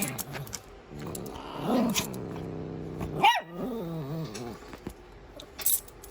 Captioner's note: Caprice hisses twice at Ava; Ella barks; Caprice growls